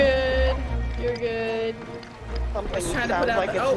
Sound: laugh

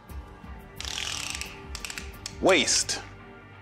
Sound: tape measurer clicks

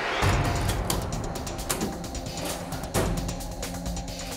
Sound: clicking

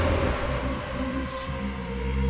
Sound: chanting

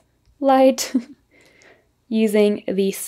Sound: chuckles

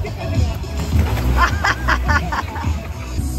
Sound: laughing

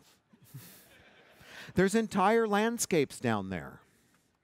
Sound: laughter

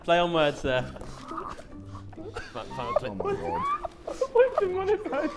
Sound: Sidemen laughing

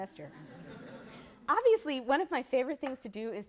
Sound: laughter

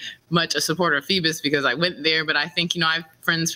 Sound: none

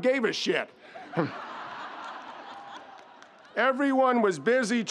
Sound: audience laughs

